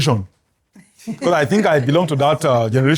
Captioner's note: laughs